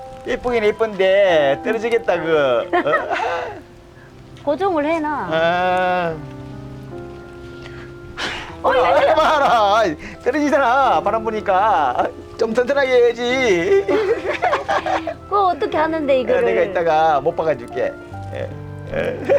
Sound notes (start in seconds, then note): 8.2 blowing; 13.2 both laughing